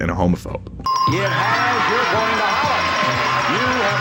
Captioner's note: winning dings and chearing